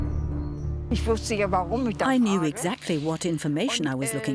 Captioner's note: speaking German